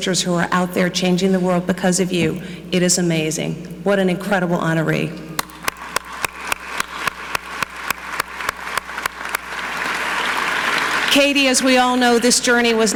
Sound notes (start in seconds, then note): 5.4 clapping; 5.4 audience clapping